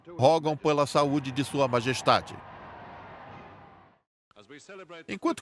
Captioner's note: crowd cheering